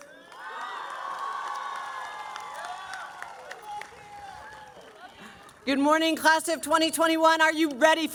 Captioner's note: cheering